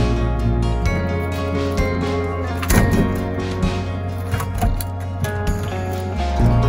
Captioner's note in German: Geräusch, wenn der Baumstamm auf den Lastwagen prallt